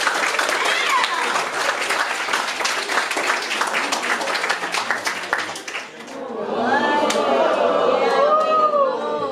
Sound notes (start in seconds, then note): 6.0 oohs, aahs, general wow-ing